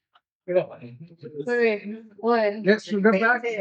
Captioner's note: laughing